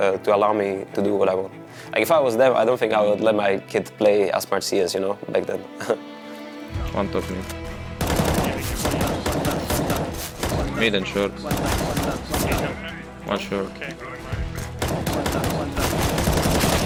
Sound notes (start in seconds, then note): 8.0 gun fires; 12.5 gun fires; 14.7 gun fires